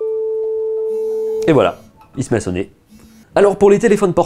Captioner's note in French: téléphone qui vibre et sonne